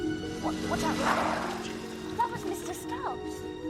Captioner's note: motorcycle roaring